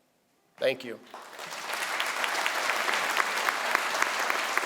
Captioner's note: crowd applauds